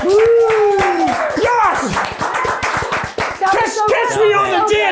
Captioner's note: everyone claps